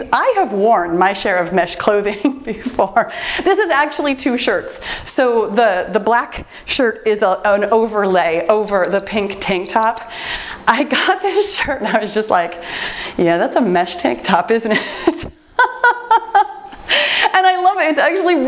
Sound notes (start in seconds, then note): 9.4 timer beeps; 14.8 laughs